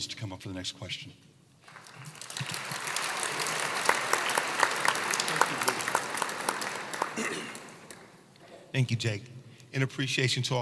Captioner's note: applause